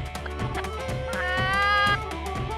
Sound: impersonating a chicken

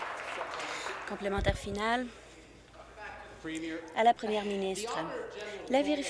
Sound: applause

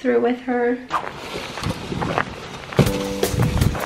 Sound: snow crunches; bright music

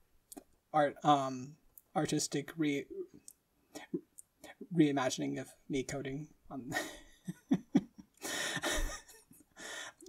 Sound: laughing

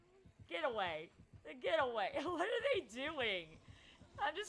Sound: laughs

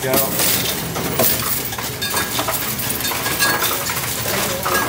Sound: coins rattling

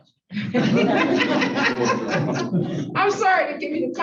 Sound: laughter

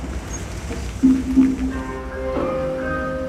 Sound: car approaching

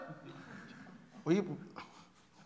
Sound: timidly

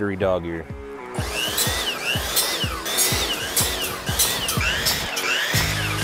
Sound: saw buzzing repeatedly

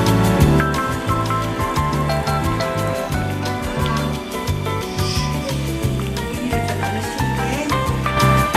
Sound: bubble Bubble~

